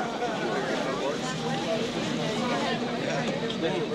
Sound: crowd talking

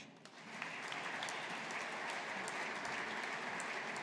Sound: audience applauding

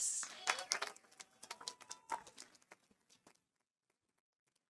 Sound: audience applauding

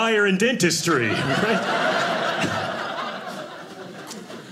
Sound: audience laughing

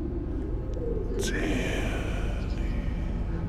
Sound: none

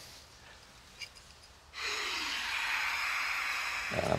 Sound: gas hissing

